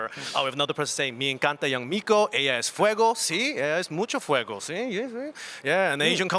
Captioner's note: speaks in Spanish